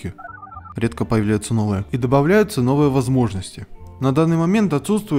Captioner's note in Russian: звук набора номера телефона из реклам